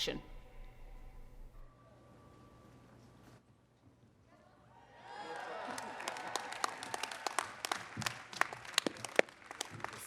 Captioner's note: applause